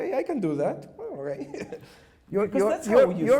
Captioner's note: chuckles